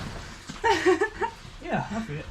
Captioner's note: laughing